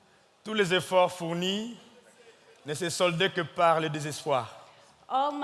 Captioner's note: speaking in French